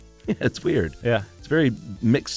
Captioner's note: laughs